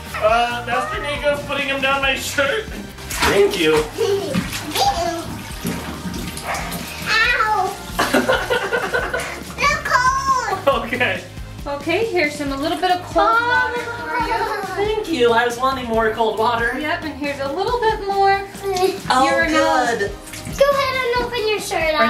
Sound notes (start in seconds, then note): 3.8 giggles; 8.0 laughs; 13.8 laughs